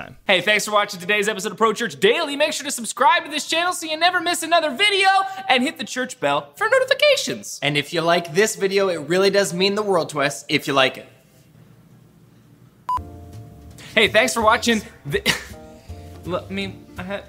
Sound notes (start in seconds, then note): 12.8 beeping; 15.2 snickering